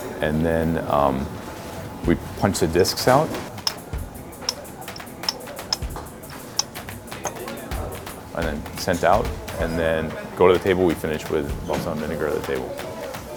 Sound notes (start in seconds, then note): 3.4 mechanical pop